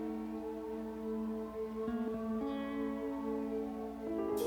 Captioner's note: siren wailing